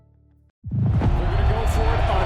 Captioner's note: crowd cheering